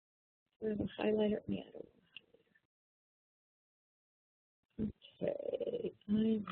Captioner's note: pause